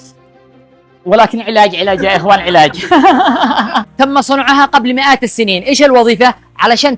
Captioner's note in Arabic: ضحك